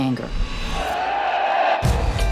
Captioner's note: crowd shouting